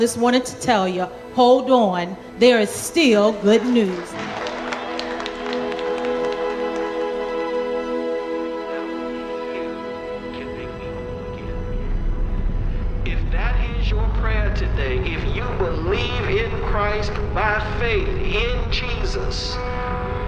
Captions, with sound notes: just wanted to tell you, hold on. There is still good news. (congregation applauding) - [Person On Radio] Can make me home again. If that is your prayer today, if you believe in Christ by faith in Jesus, guess what?